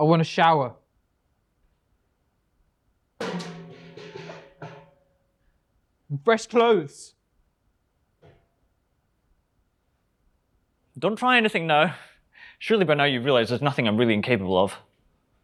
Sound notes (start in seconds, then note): 3.2 bucket clanging